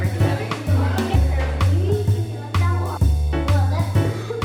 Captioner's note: kids chattering; upbeat jazzy music